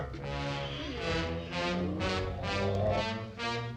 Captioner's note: groaning; dramatic instrumental music